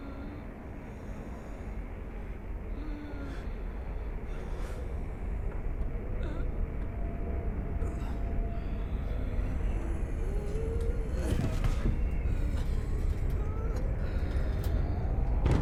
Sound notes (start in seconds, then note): 3.1 faint wheezing